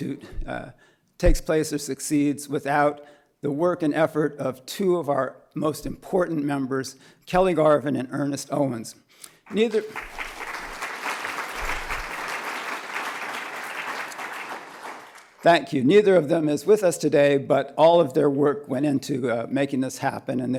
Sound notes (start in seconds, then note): 9.4 applause